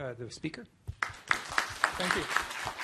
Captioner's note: applause